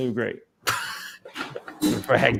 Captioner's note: laughs